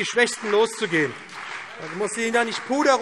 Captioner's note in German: Beifall BÜNDNIS 90/DIE GRÜNEN, CDU, vereinzelt SPD und DIE LINKE - Zurufe AfD